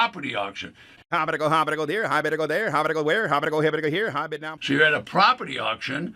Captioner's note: auctioneer fast talking